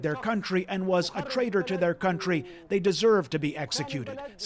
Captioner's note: speaking alternate language